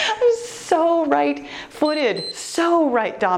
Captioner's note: timer beeps